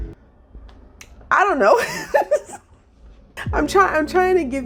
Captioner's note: laughs